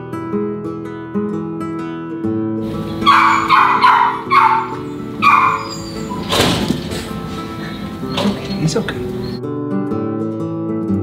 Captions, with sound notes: (gentle music) (dog barking) Okay, he's okay.